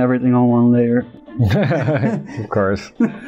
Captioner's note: laughter